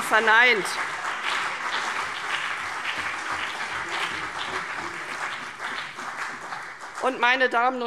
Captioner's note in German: Beifall CDU und BÜNDNIS 90/DIE GRÜNEN